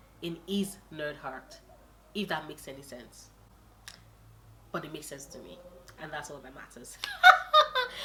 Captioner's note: laughs